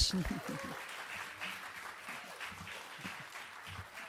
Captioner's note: audience applauding